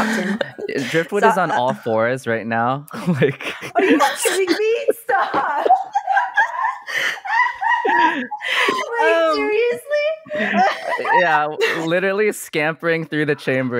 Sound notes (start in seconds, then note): 0.0 laughs; 7.7 laughter